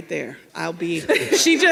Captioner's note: people laughing